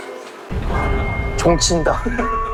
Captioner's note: Sogang High school bell